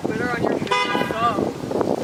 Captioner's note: car honk